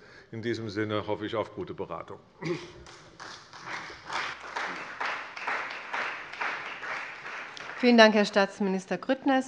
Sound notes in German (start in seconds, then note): 2.8 Beifall bei der CDU und dem BÜNDNIS 90/DIE GRÜNEN